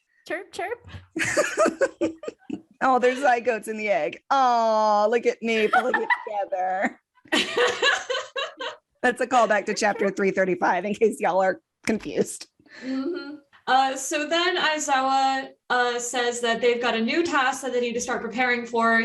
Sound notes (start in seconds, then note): 5.6 laughter